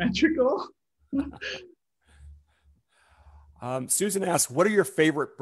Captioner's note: chuckles